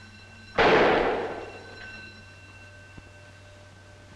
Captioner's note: gun bangs